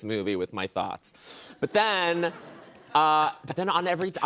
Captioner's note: laughter